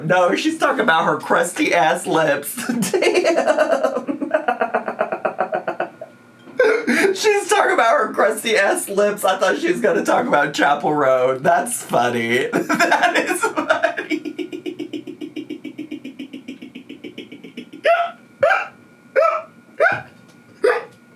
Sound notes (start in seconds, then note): 2.5 laughs; 12.4 laughs